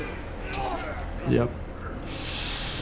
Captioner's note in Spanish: Los reclusos gruñen; el doctor inhala a través de los dientes